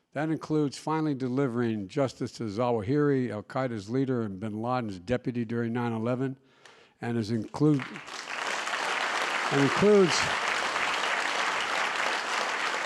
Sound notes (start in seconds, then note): 7.4 applause